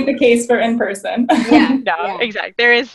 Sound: laughing

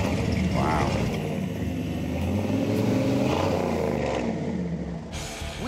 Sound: revving; rock music

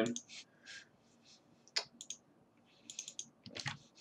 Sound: mouse clicking

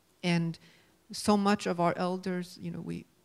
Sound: none

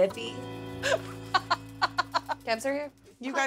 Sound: laughs

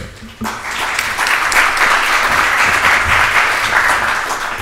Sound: audience applauds

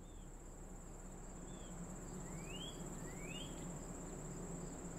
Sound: birds singing

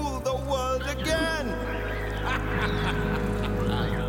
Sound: laughing

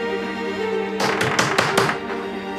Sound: the door slams

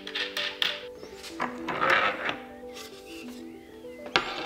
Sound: lid lifts

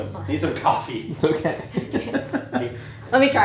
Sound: laughing

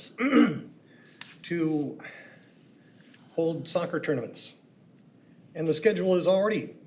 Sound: clears throat

